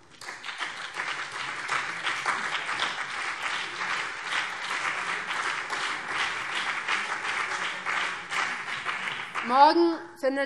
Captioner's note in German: Beifall BÜNDNIS 90/DIE GRÜNEN und vereinzelt CDU